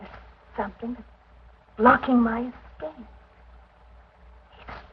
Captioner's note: none